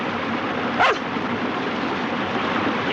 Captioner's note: barking